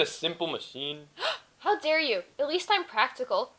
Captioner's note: gasps